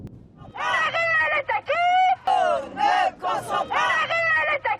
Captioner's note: crowd protesting